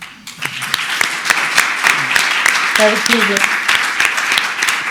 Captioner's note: audience applauds